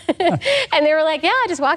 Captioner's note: laughs